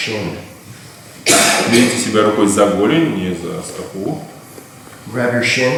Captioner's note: speaking in a foreign language